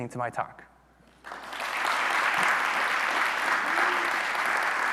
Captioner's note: audience applauding